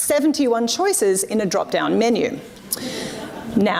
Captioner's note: audience laughs